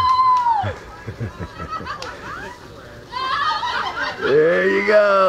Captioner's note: yelling; cheering